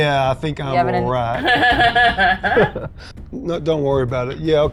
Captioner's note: Mayanna chuckling